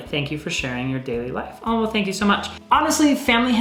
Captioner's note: none